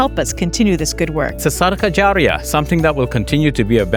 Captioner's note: speaks in Arabic